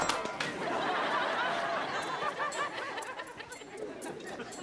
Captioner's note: audience laughing